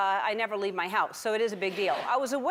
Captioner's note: audience laughs